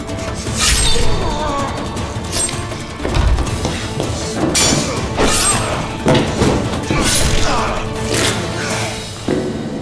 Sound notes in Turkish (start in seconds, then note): 0.2 İnleme sesi; 4.4 Kılıç sesleri; 7.2 Boyun kırma sesi